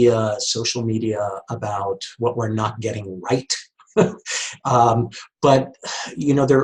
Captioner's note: chuckles